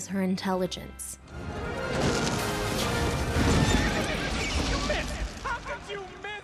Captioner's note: shouting